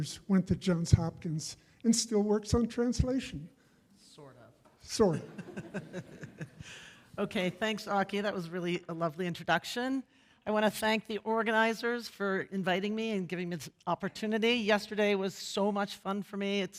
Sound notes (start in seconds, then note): 5.2 laughs